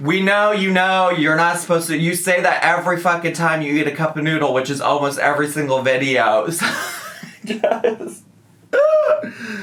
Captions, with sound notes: - We know, you know, you're not supposed to, you say that every fucking time you heat a cup of noodle, which is almost every single video. (laughs)